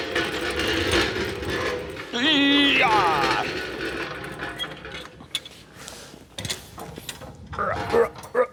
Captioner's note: grunting